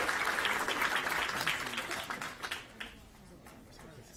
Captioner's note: applause